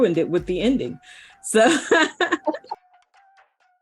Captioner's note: laughs